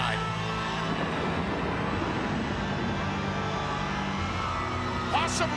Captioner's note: thunder rumbling